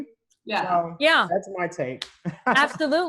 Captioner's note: laughs